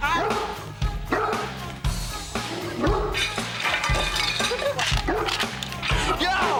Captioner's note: dog barking; glasses falling over; dog barking